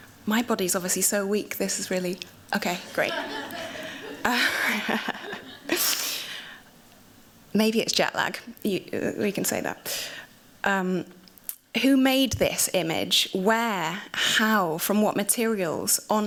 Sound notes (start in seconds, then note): 2.8 laughter